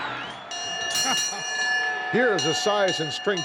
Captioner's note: crowd cheering; bell dinging